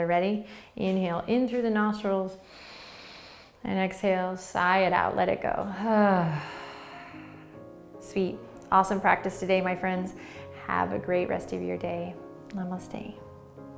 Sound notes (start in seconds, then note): 2.5 inhaling; 5.9 sighing exhale; 13.6 lively, uplifting piano music